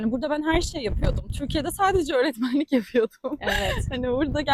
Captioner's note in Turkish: kahkaha